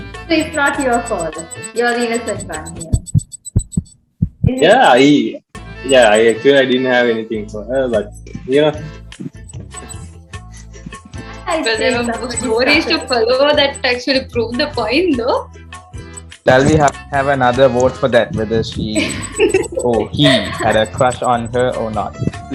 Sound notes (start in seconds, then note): 3.0 heartbeat